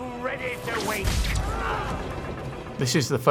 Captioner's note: sailors grunting